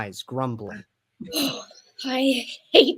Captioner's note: exhales